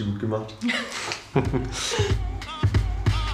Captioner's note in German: Lachen, fetzige Musik